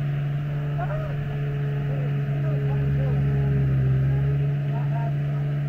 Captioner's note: engine humming